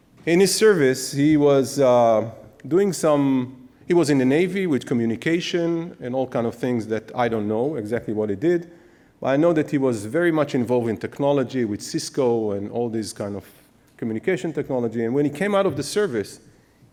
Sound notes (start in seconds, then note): none